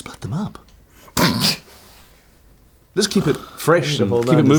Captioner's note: snorting